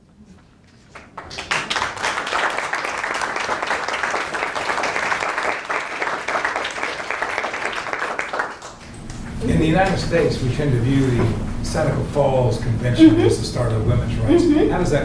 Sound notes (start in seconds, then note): 0.8 students applaud